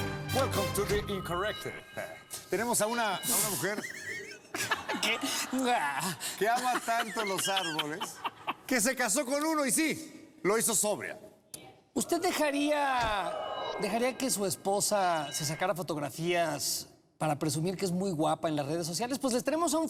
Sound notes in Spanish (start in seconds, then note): 3.5 risas; 13.0 abucheos; 15.4 abucheos